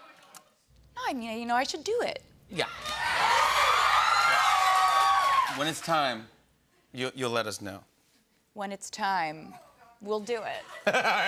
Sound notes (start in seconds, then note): 2.8 cheers and applause